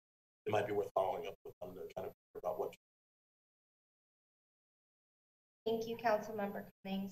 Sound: speaks faintly

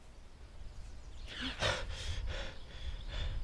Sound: BEN gasps

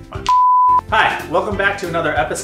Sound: high pitched beep

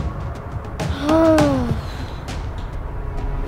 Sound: sighs

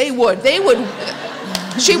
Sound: laughter

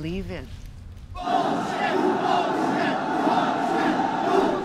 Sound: chanting

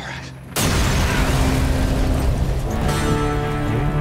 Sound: boom

